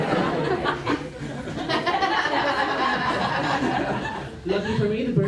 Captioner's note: laughter